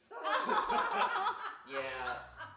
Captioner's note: group laughs